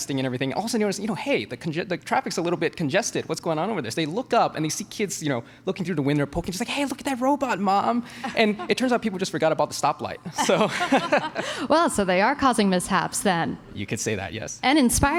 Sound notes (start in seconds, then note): 6.6 both laugh